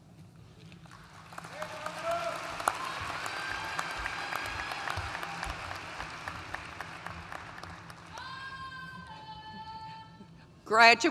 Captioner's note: applause